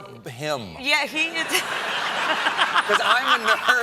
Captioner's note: laughs along with the audience